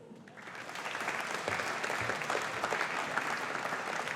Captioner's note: audience applauding